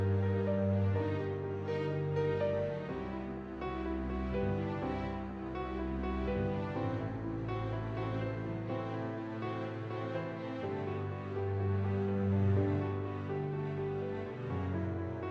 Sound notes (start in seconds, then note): none